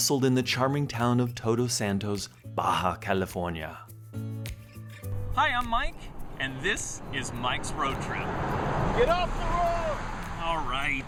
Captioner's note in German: schreit der Fahrer